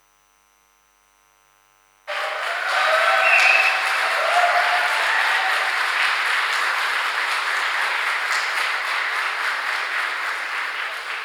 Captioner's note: applause